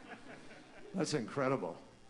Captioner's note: laughter